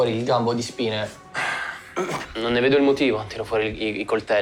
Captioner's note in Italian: Sospira